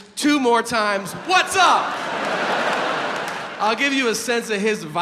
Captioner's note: audience laughs